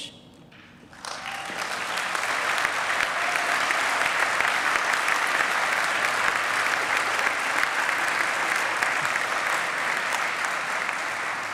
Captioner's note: applause